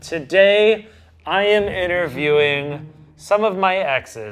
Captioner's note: none